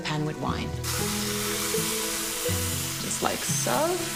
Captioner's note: pan sizzles